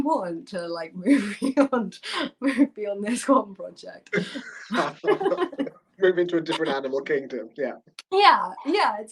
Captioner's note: laughter